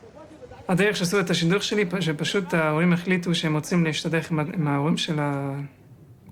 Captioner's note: young man speaking in foreign language